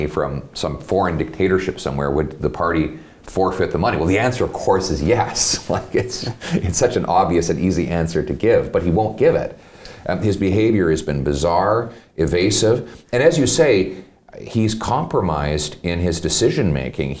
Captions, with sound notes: from some foreign dictatorship somewhere, would the party forfeit the money?" Well, the answer, of course, is yes. (laughs) It's such an obvious and easy answer to give, but he won't give it. His behavior has been bizarre, evasive, and as you say, he's compromised in his decision-making.